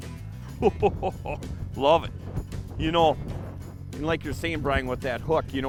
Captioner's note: laughs